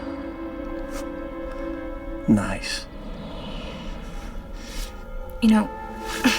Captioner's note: chuckles